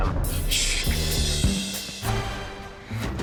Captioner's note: man scoffing; dramatic instrumental music